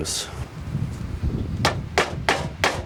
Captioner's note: wind howls